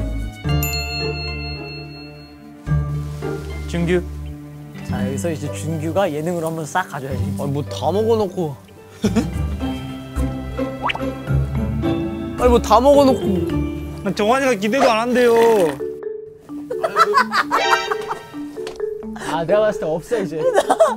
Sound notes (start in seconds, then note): 15.2 slurp